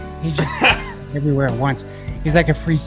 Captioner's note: laughs